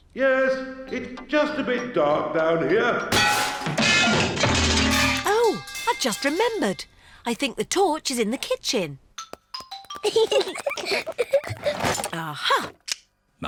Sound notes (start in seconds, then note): 3.1 clanging and crashing; 10.0 peppa and george giggling